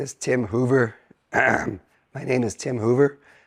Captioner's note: coughing